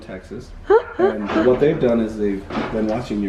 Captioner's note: laughs